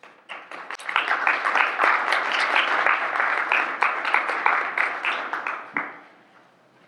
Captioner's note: applause